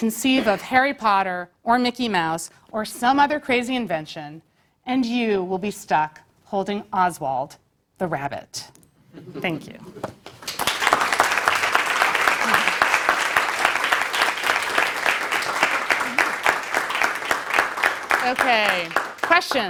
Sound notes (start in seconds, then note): 10.2 applause